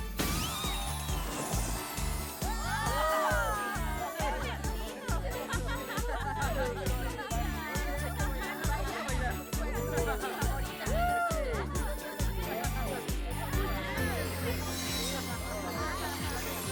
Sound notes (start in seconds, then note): 0.1 pop; 3.1 happy chatter